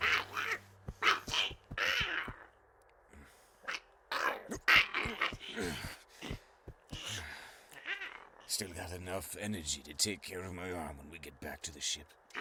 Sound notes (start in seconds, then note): 1.4 grumbles; 5.7 Brocheet grunts